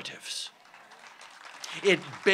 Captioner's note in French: Applaudissements